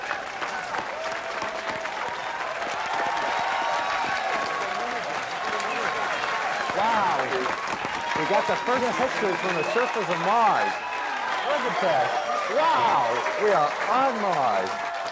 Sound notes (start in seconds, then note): 5.7 intensified crowd cheering